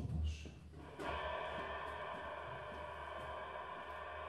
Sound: distorted rumble

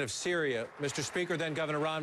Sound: applause

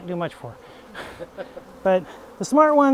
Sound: staff laugh

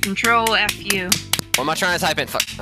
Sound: fap fap

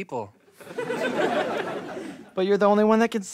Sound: laughter

